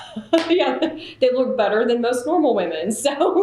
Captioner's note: laughter